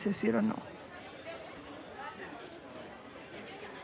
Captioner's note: crowd chattering